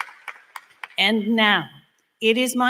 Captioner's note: applause